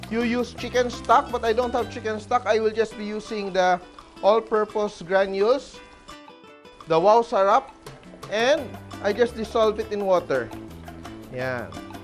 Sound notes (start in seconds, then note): 0.1 sizzle; 7.8 sizzle